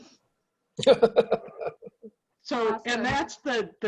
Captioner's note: laughs